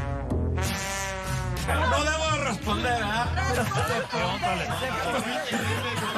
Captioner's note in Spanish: risas